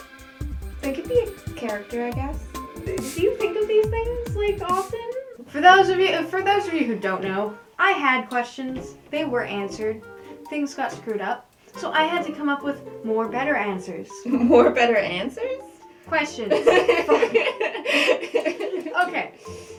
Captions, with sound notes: - They could be a character, I guess. - Do you think of these things, like, often? For those of you who don't know I had questions. They were answered. Things got screwed up. So, I had to come up with more better answers. - More better answers? - Questions. - (laughter) - Fuck. - (laughter) - Okay.